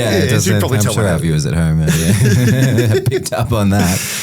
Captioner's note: laughing